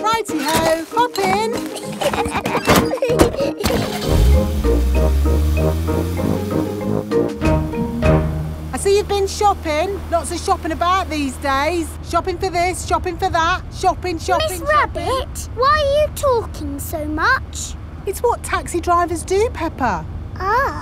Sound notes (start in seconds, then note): 1.2 laughing; 3.9 car engine starts